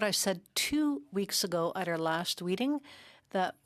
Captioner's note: speaking in French